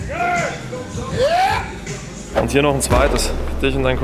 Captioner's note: cheering